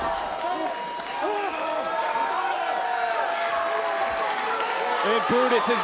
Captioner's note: audience chattering